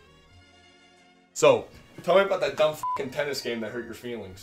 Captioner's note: awkward silence; beep